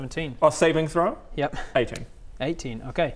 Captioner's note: cry-laugh